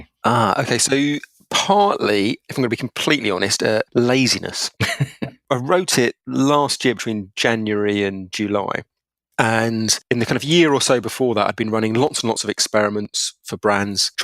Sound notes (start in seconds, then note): 4.8 laughs